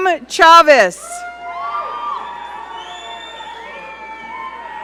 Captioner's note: audience cheering